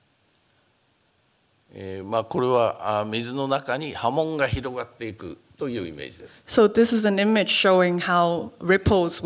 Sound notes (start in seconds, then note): 1.6 speaking japanese